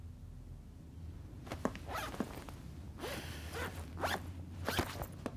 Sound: zip being closed

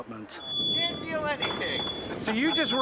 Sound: audible waring

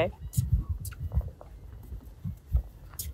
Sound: chirping

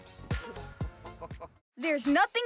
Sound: laughs

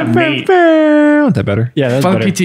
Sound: making horn noise

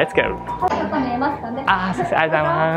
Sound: waitress speaks in japanese

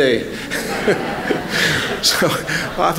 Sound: laughter

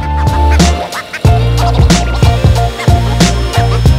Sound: machine whirring

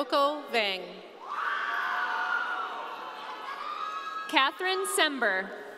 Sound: audience cheering

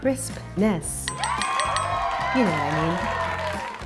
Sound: audience cheering

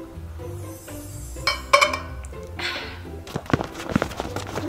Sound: sparkling; shoes scuffing

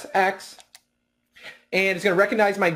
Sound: controller button clicks

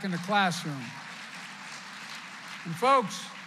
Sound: applause

